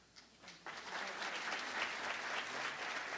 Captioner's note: applause